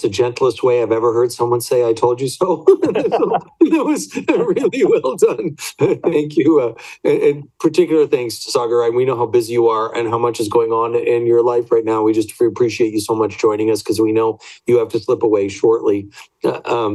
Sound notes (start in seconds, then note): 2.6 all laugh